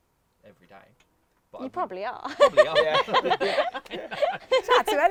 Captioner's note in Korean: 웃음